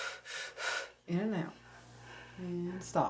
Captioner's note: man breathing rapidly